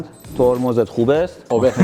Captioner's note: In Isfahani accent